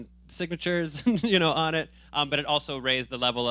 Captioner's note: chuckling